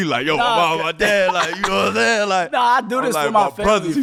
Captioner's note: laughing